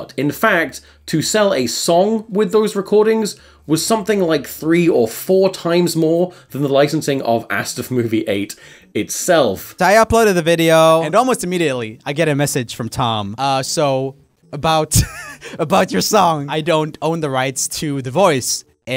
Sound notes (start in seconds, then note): 15.0 laughing